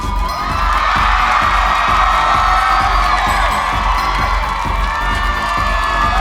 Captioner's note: audience cheering; audience applauding